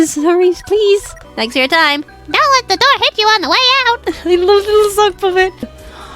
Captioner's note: laughs